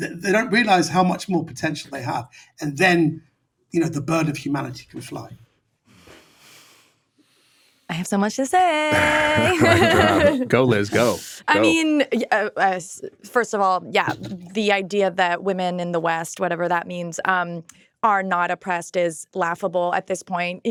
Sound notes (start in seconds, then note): 8.7 laughs